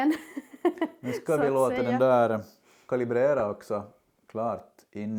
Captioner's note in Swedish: skratt